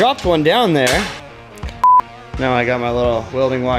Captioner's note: beep